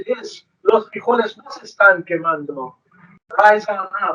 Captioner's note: speaks foreign language